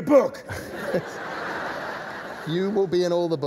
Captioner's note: laughter